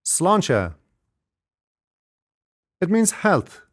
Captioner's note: speaks in foreign language